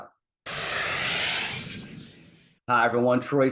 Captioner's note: smoke whooshing